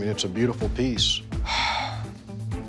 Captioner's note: sighs